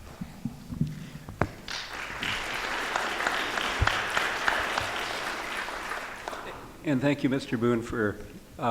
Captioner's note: applause